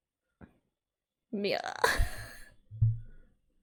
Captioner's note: laughs